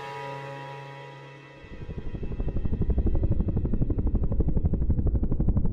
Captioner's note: helicopter blades whirring